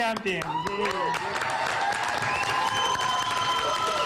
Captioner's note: cheers and applause